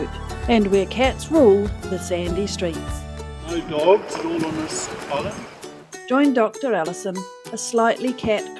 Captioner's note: waves lapping